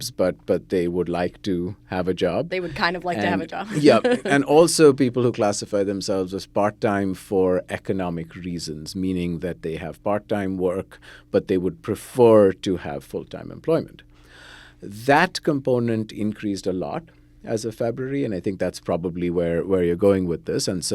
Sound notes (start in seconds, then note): 3.6 laughs